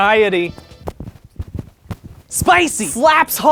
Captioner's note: dancing noises